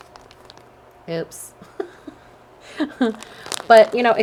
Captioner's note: chuckles